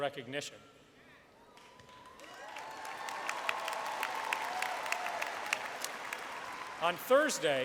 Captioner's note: applause